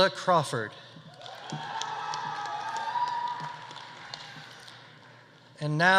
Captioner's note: audience applauding; audience cheering